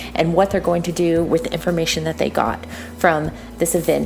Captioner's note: breathe in